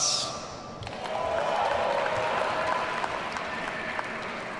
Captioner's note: audience cheering